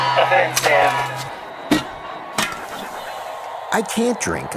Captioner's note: beer clacking on ground and sissing